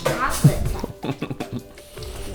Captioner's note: laughs